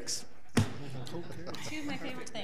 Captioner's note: people laugh